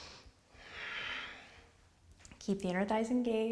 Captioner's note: exhales; inhales